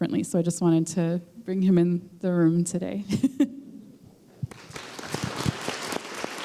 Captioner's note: applause